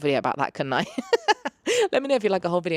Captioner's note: laughs